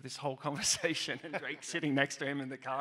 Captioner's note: all laugh